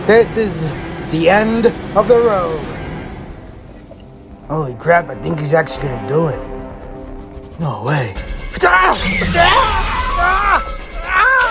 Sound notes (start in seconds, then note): 8.5 Hermes screeching